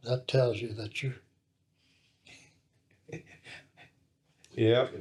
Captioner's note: laughs